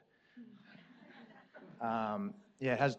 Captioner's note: audience laughs